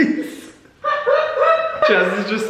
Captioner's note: laughing